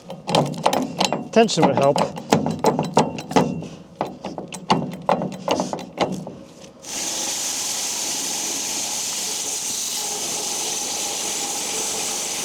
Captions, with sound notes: Tension would help. (metal clanking) (planer buzzing)